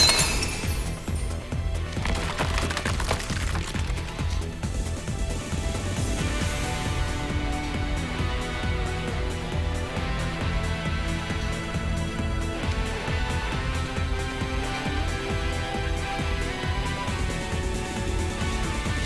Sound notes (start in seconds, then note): 2.0 crack crack crack!